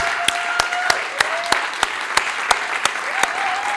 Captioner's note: cheers and applause